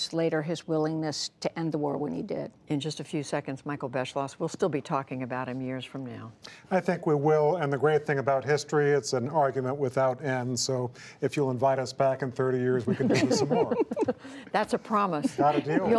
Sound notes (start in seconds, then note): 12.8 laughter